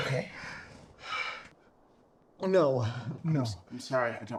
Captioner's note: exhales